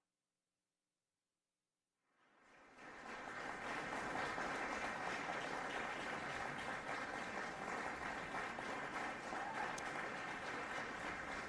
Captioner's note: applause